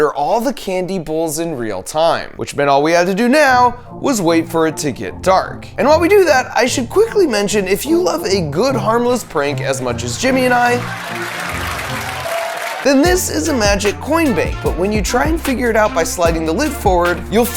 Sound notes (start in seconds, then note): 10.1 audience laughing